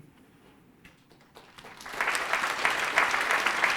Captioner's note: applause